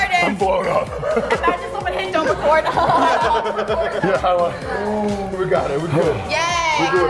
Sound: laugh

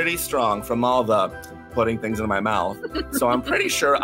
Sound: laughs

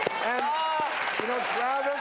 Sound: applause

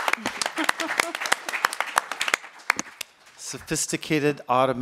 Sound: applauds

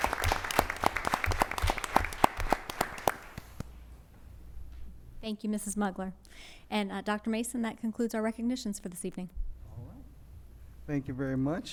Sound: applause

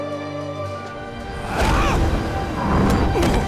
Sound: shouts

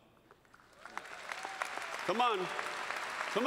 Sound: applause

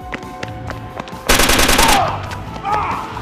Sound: guns firing

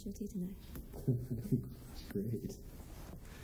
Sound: laughs

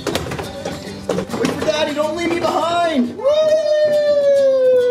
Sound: cheers

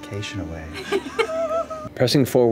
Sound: laughter

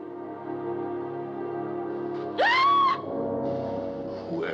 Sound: screams

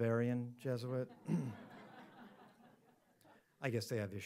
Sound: audience laughs

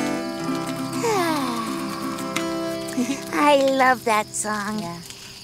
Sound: sighs

